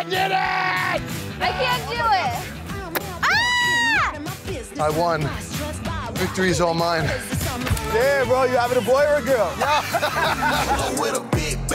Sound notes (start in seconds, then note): 3.2 woman screaming; 7.1 upbeat music; 9.5 man laughs; 11.5 upbeat music